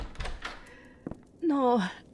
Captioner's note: door opens, footsteps